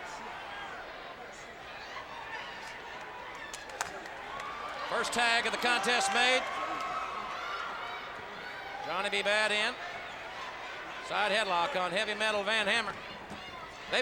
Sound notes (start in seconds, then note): 1.9 audience cheers